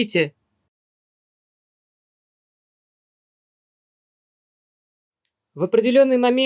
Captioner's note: silence